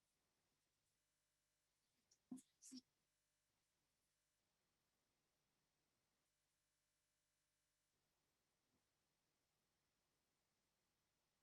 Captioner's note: silence